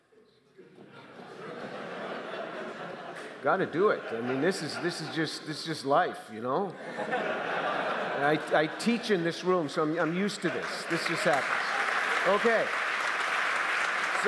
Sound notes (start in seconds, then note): 0.7 audience laughter; 6.7 audience laughter; 12.8 applause